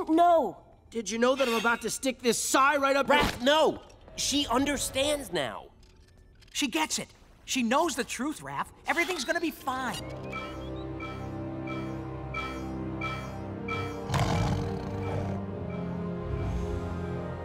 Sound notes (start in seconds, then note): 9.9 beeping; 14.0 snarling; 15.2 beeping